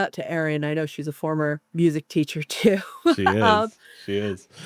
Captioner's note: laughs